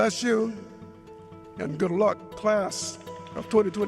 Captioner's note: applause